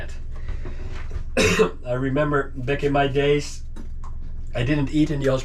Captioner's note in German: hustet